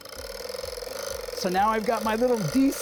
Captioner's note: machine revving